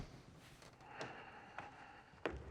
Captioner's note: exhales deeply